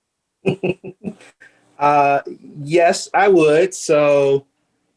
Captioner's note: chuckling